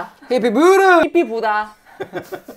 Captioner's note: Korean